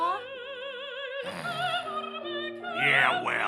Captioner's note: Rocco sighs